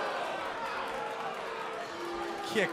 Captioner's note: crowd cheering